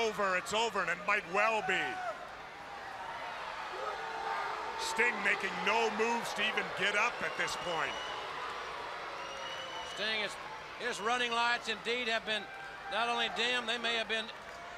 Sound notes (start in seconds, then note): 4.7 crowd chatters; 10.5 crowd chatter